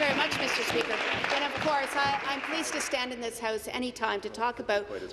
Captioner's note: applause